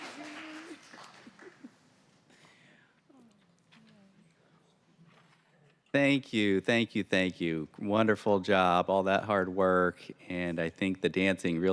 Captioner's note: applause